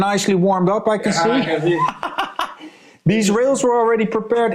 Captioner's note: laughs